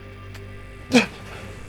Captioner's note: gasping